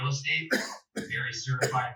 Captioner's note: man coughing